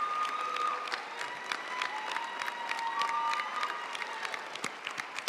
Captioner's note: audience cheering and applauding